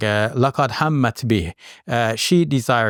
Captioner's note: speaks Arabic